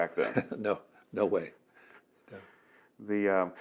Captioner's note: laughs